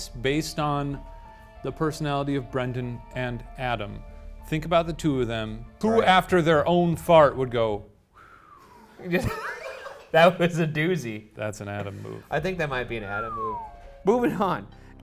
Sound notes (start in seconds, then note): 8.1 whistles